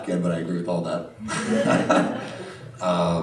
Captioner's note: laughter